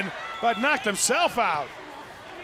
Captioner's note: crowd cheering